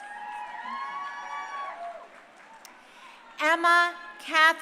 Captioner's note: crowd cheering